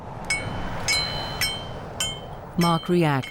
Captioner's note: metal clanging